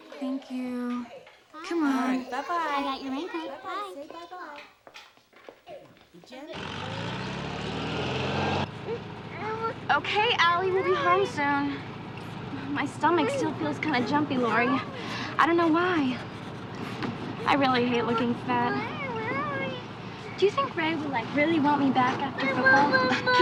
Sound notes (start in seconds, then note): 9.2 allison crying